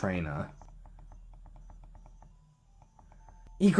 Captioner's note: moderately intense button mashing